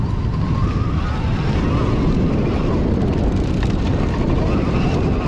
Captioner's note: wind blowing